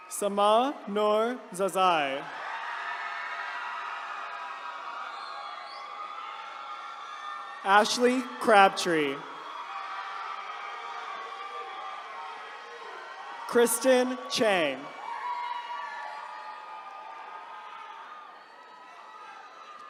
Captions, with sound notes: Sama Noor Zazai. (attendees cheering) Ashley Crabtree. (attendees cheering) Kristen Chang. (attendees cheering)